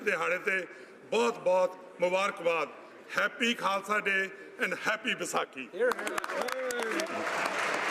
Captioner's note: speaking alternate language